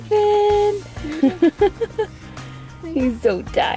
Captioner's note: laughs